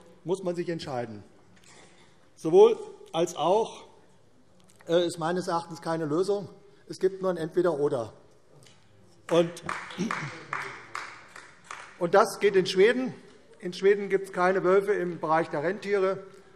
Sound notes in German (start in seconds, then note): 9.2 Beifall AfD